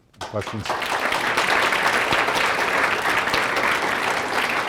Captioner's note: applause